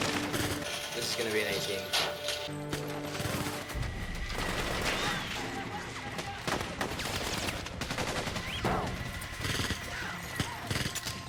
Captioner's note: gunshots